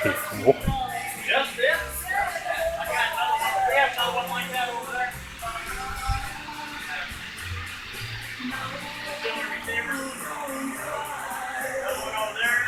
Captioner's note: voices in the background